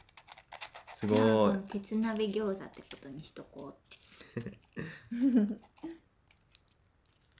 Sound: laughs

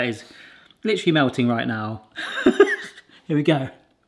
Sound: laughs

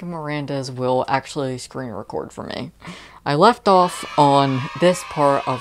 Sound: kids cheering sound

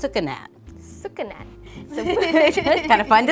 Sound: laughs

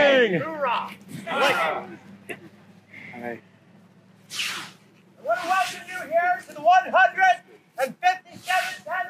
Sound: Ranger yells; audience replies; Ranger yells

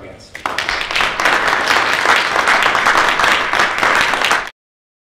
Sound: audience applauding

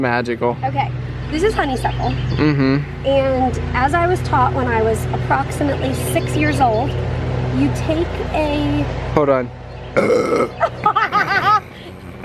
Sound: burps loud and they laugh

